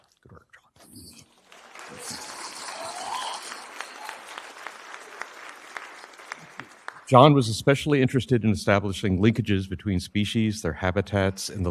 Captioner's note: applause